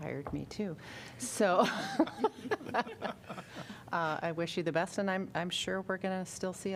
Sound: laughter

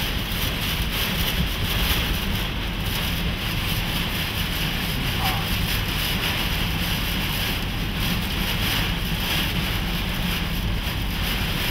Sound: loud sounds of rain and windshield wipers

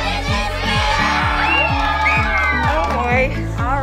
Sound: cheers and applause

